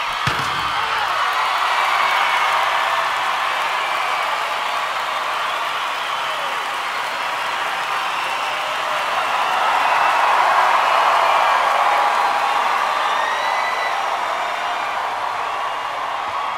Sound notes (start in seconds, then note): 0.8 audience cheers and applauds